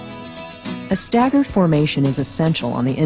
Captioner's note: voiceover